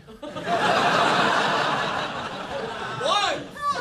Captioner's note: audience laughing